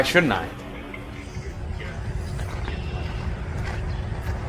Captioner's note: birds chirping